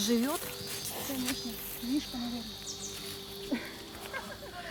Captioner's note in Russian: смеется